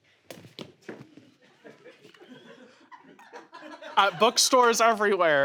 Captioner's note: audience laughs